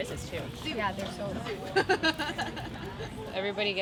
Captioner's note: laughter